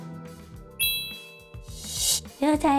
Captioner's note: connection complete sound